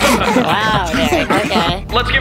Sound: everyone laughs

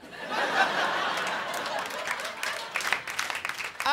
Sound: crowd laughing

